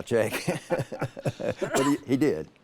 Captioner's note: laugh